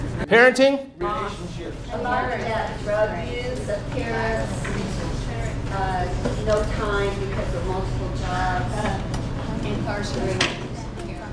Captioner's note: audience shouting out more answers